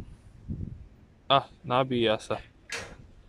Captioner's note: low voltage